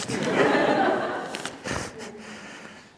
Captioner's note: laughter